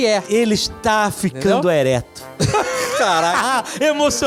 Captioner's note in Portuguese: risos